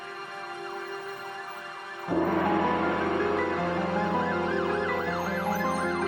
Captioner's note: ominous music; sirens wailing